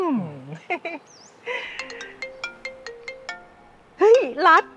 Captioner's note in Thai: เสียงโทรศัพท์